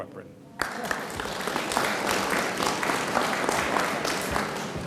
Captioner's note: audience applauds